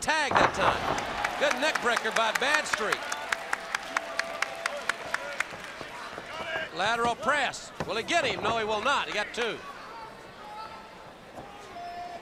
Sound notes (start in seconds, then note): 1.9 crowd cheering